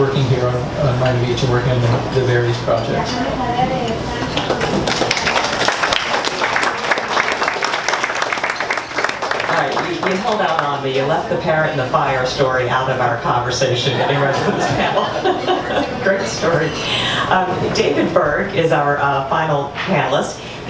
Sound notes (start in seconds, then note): 4.3 audience applauds